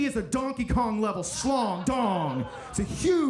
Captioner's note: audience laughing